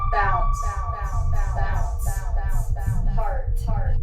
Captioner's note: echoes; echoes